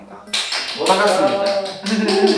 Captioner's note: wild cheering